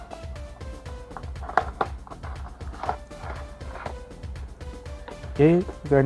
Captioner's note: unboxing sound